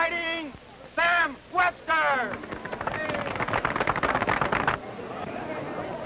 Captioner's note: audience applauding